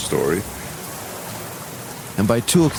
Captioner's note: thunder, rain, paddling sounds